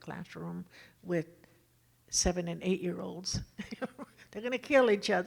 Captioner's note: laughs